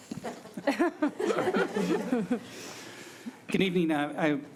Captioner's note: giggling